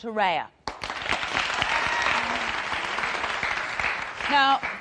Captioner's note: audience applauding